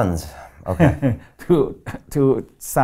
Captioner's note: laughing